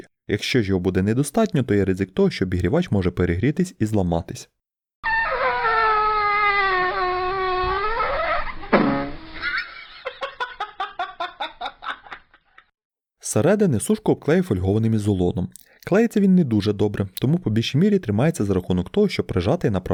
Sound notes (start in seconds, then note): 4.9 pop sound